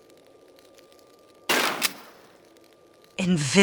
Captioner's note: bam